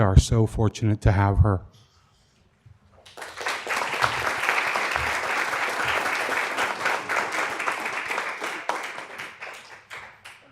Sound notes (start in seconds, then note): 3.0 applause